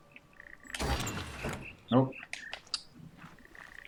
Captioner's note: bird chirps five notes